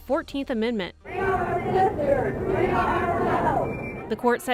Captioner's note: crowd chanting